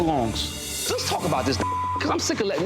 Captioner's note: beep